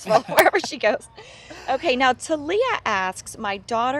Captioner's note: laughter